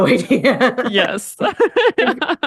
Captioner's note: laughs